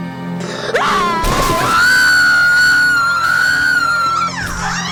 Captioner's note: screaming